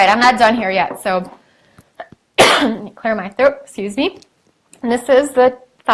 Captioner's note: coughs